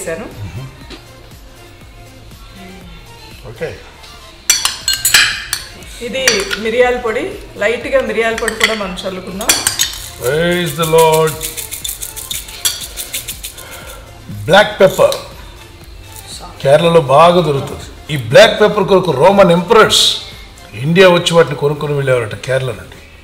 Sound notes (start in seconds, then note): 4.5 clinking Sound; 12.1 sprinkling Sound